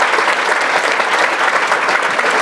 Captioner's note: applause